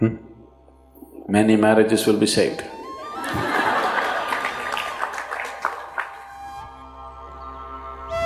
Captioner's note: laughter/Applause